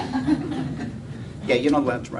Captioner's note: laughter